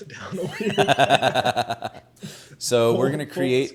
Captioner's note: laughs